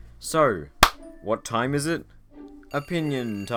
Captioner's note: clap